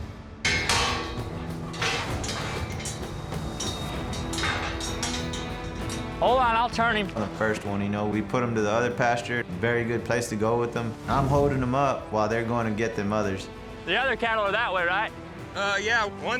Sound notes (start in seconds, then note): 3.6 gate clinking